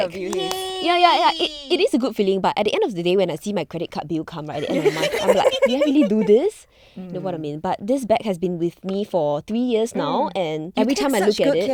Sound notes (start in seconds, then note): 0.2 girls clapping and cheering